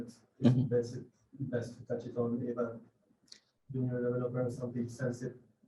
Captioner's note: faintly speaks